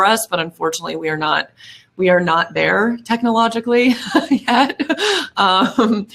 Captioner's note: laughs